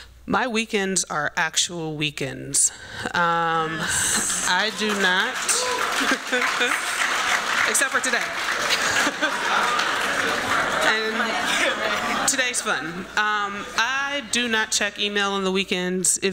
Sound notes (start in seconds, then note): 4.0 applause; 5.7 laughs